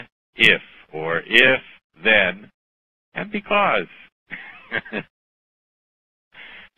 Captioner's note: laughter